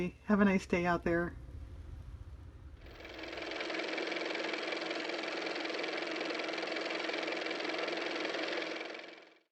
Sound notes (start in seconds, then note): 4.8 car motor